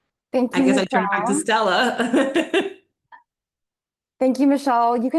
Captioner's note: chuckles